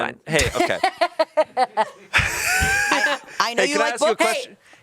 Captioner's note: laughs